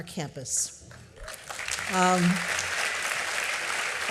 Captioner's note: applause